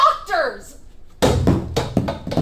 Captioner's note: chair thuds; chair clatters